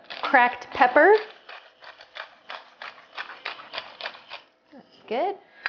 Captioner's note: pepper shaker grinding